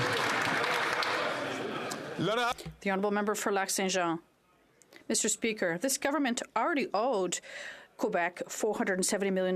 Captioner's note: some Applause